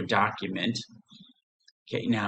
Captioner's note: silence